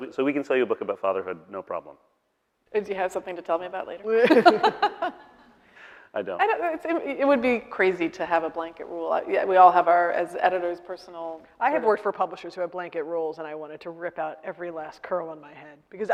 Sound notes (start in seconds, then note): 4.2 laughing